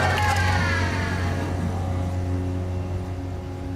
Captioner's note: siren discontinues